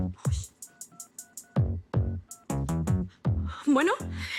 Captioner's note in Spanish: Sonidos al marcar